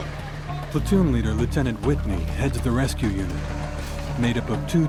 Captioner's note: voiceover